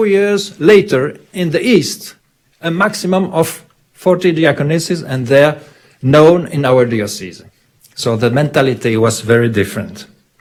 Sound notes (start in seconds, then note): none